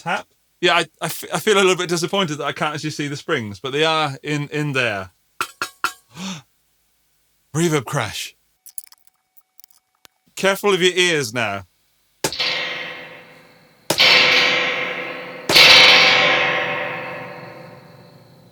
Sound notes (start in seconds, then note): 6.1 gasp; 11.9 gun shot